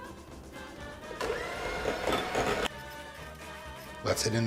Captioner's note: rapid whirring